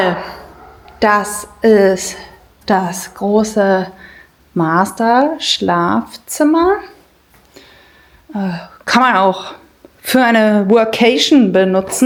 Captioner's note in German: seufzt